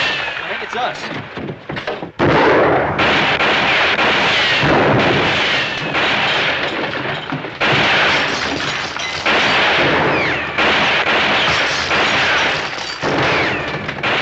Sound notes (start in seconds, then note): 0.0 gunshot; 1.7 gunshots; 8.6 gunshots